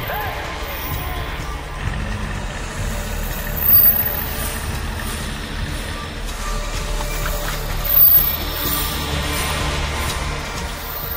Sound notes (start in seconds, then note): 1.6 car engine; 8.6 intriguing music